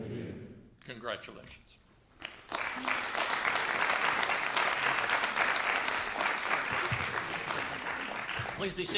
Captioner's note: applause